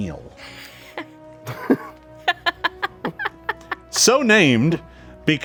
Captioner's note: group snickers